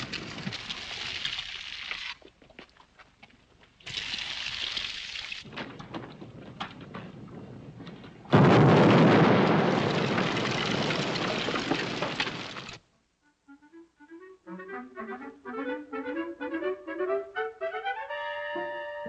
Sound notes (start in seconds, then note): 8.2 explosion; 13.3 cheerful music